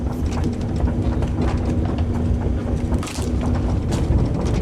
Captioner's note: machine rumbling